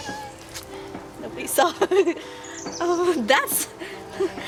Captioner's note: laughs